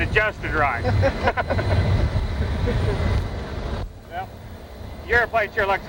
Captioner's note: laughter